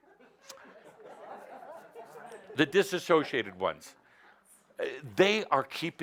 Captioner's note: laughter